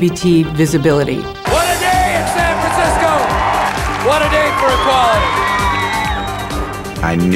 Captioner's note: cheering